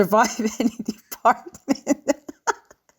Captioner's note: laughter